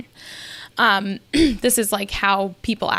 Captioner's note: clears throat